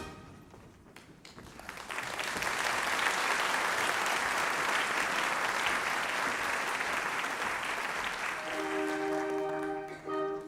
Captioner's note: applause